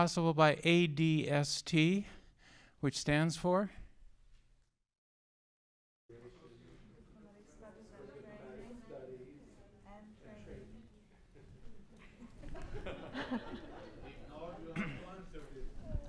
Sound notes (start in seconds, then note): 12.0 laughter